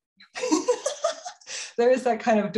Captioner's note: both laughing